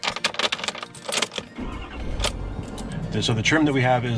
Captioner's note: engine turns on